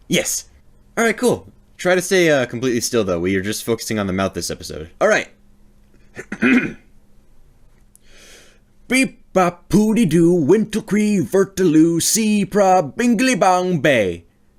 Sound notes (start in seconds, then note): 6.0 clearing Throat; 8.0 inhale